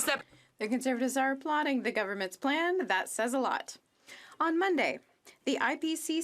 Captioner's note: speaking French